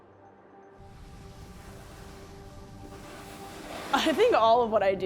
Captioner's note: sounds of skis against snow